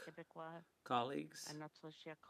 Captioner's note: speaking French